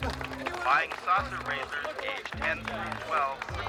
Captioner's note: applause; over P.A